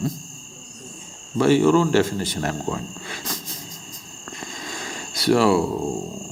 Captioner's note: laughs